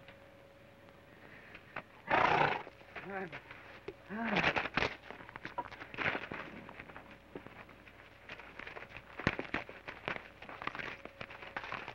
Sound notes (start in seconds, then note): 2.0 horse snorts; 2.2 Joshua grunts